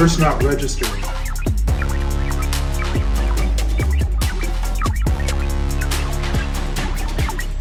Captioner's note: devices beeping; rousing atmospheric music